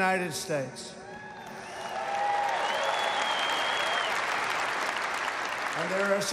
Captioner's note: applause